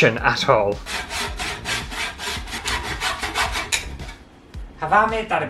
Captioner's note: sawing Sounds